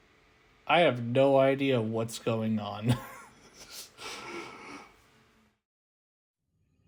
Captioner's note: laughter